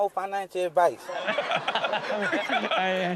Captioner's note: laughter